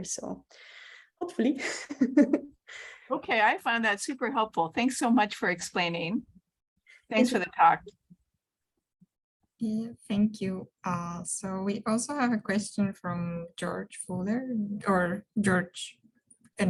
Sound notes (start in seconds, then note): 1.7 chuckles